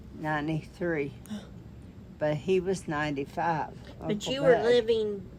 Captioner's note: gasps